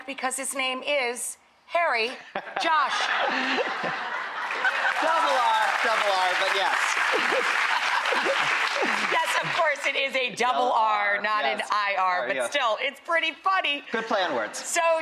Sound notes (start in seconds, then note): 2.9 laughs; 6.9 crowd applauding